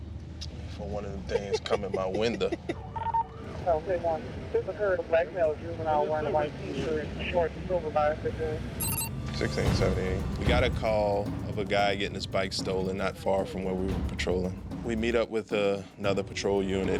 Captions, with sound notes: For one of them things come in my window. [radio beeping] We got a call of a guy getting his bike stolen not far from where we were patrolling. We meet up with another patrol unit,